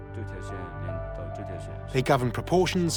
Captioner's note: speaking Tibetan